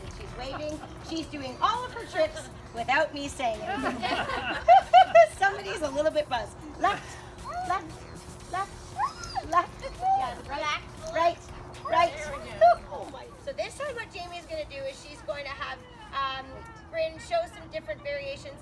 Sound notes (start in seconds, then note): 3.6 laughter